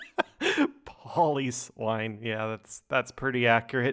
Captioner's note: laughs